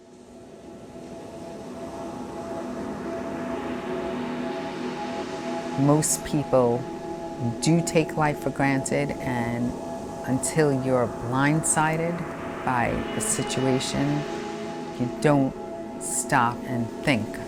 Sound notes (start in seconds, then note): 0.9 gentle music; 0.9 waves lapping